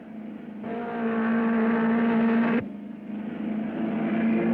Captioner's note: car revving